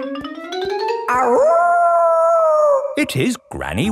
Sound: kids yelling; howling

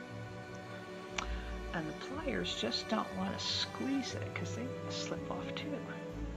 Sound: tsk

